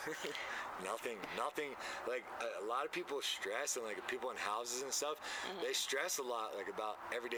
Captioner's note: laughter